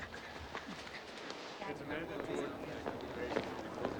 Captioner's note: people chattering